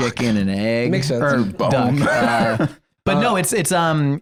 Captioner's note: laughs